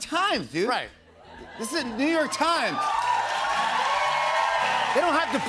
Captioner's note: cheers and applause